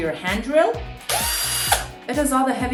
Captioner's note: drill buzzing